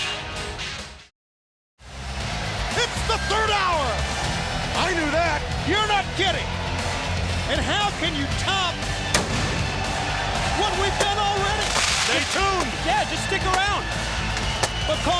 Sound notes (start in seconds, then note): 8.7 intense rock music; 9.1 pyrotechnics explode